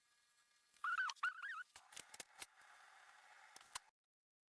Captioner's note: horngry chipmonk noises